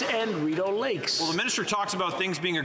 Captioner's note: applause